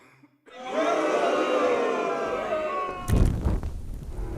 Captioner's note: people booing